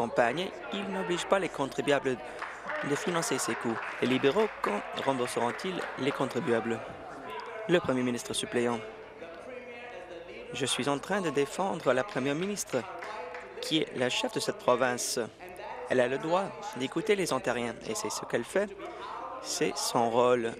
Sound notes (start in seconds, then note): 5.2 applause